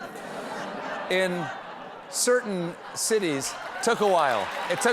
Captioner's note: laughter